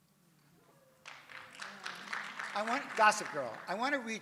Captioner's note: audience applauds